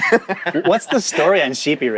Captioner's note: laughs